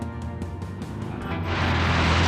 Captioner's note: engine roaring